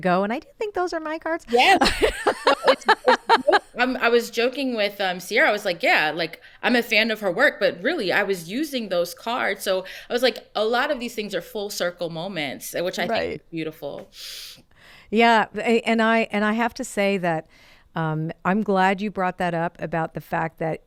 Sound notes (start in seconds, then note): 1.5 laughs